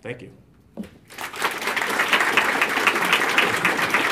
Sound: applause

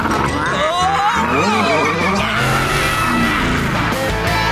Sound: screaming

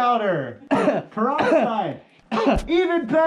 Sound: coughing from baby powder

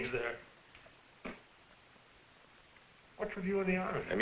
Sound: spitting

